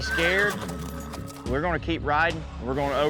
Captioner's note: horse neighs